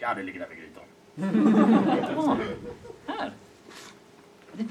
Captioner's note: audience laughs